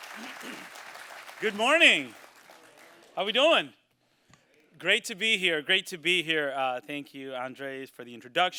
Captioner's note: applause